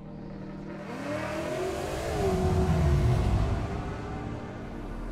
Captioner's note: ambient music; car engine roars